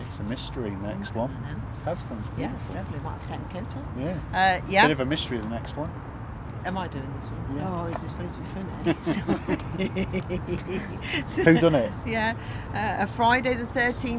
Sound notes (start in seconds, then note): 8.8 laughter